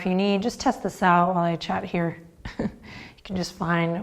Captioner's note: chuckles